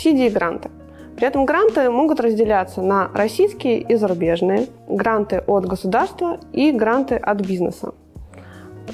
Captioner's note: russian